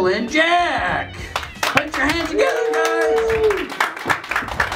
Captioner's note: applause